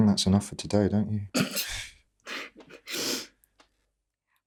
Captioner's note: Sarah laughs